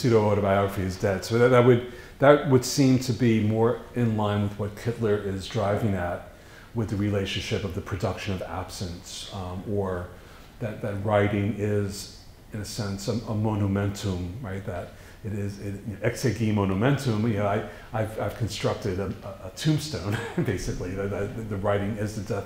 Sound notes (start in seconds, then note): 15.6 foreign language